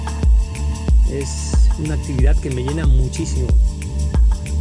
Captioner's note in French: en espagnol